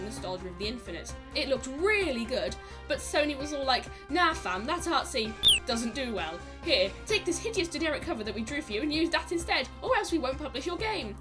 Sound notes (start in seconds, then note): 5.4 cheep